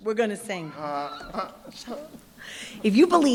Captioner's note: chuckles